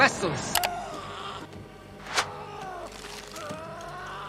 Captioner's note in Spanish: Dennis gritando